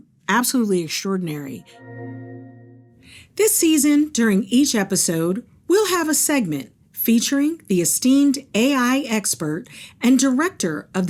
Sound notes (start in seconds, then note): 1.5 graphics chiming